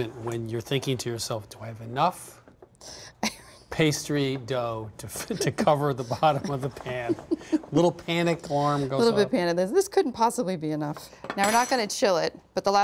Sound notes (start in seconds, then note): 3.3 chuckles